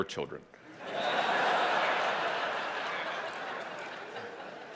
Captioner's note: audience laughing